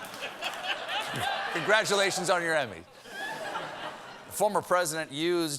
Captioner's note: laughter